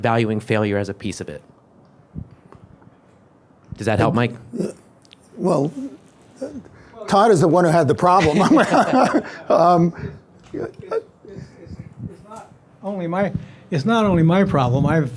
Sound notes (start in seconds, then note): 7.1 laughs